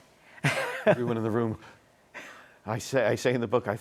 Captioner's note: gasps